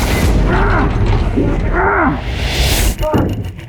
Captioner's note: yelling